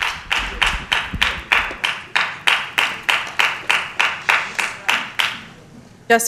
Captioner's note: applause